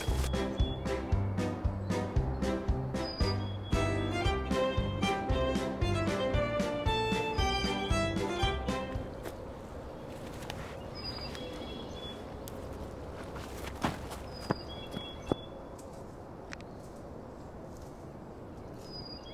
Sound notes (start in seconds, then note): 0.0 bright playful music; 9.4 birds chirping; 15.5 leaves rustling